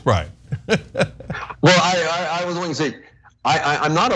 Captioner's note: laugh